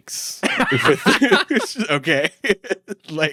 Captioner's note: laughs